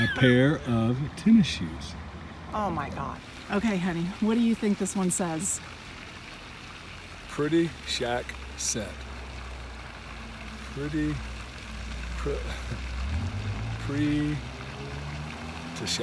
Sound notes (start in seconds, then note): 0.0 laughs; 5.7 water burbling; 9.0 water burbling; 12.5 laughs; 14.1 car engine revving